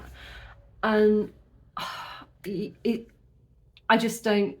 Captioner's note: deep sigh